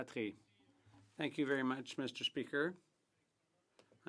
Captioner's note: speaking French